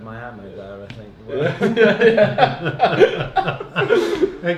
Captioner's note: laughs